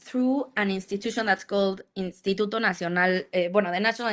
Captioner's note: speaks Spanish